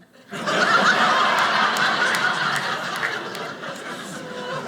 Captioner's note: audience laughing